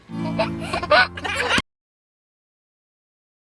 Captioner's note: baby laughing